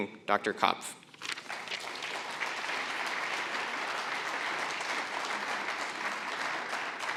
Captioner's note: applause